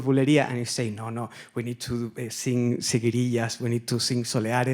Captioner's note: speaks Spanish